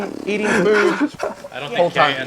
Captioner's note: lip trills